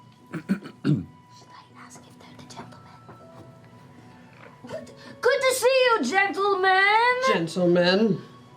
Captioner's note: whispering; shouting